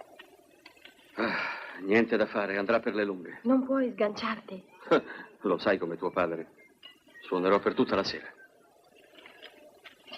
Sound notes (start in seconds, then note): 1.1 sighs; 5.3 laughs